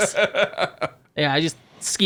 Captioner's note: laughing